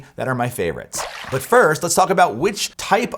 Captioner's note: water splashes